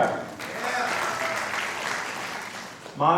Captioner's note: applause